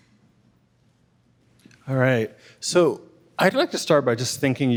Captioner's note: none